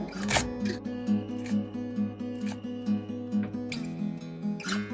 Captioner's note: crickets noises